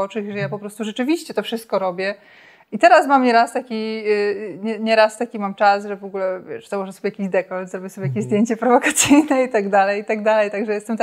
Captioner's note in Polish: śmiech